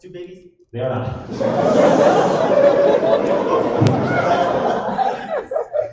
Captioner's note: laughter